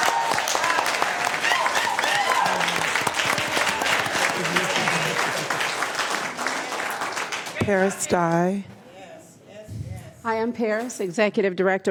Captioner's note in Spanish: Aplausos